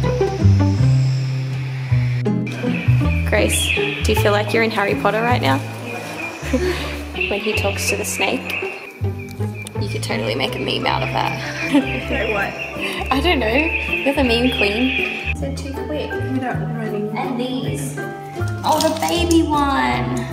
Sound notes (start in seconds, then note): 5.8 whispers; 11.0 laughs